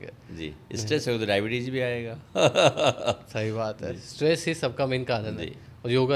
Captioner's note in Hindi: हंसी